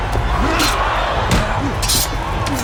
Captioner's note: crowd groans